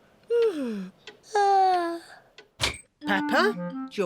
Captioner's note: yawns